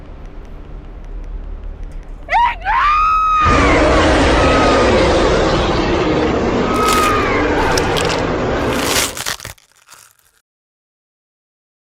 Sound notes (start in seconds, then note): 2.3 screams; 3.7 bear growling; 6.7 twigs breaking; 6.7 woman screaming